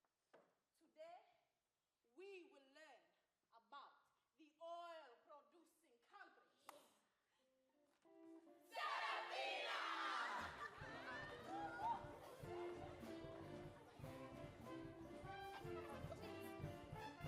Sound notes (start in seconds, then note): 10.4 upbeat traditional music; 10.6 all chattering excitedly